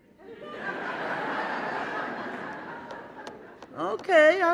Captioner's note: audience laughing